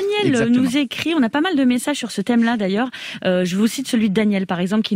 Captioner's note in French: Voix journaliste